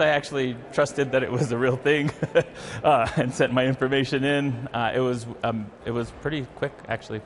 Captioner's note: laughs